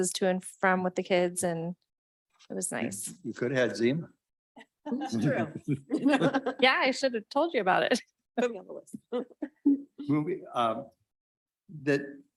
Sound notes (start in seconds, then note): 5.1 board members chuckle